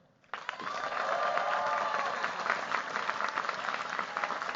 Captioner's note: cheers, applause